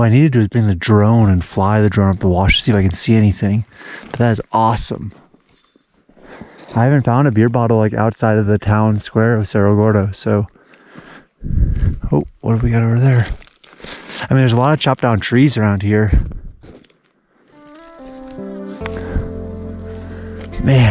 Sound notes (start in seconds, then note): 12.4 footsteps crunching; 17.5 gentle music